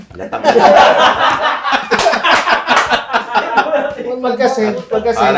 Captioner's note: everybody laughing